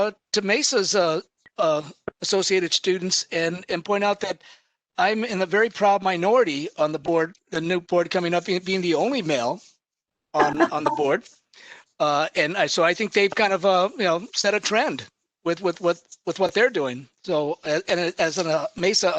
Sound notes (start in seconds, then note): 10.4 laughs